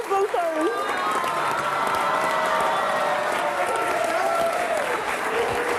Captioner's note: audience cheering, applauding